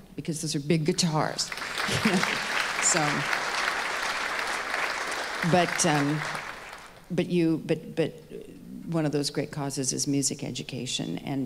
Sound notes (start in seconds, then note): 1.4 audience applauding